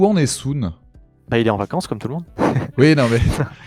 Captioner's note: laughs